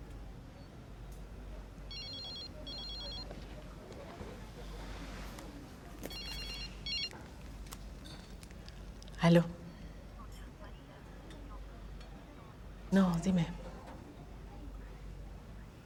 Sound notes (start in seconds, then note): 1.8 phone ringing